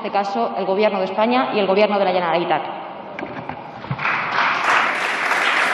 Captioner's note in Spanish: Aplausos